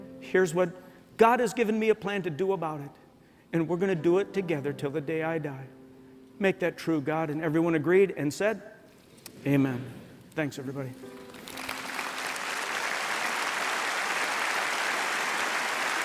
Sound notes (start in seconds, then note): 11.3 applause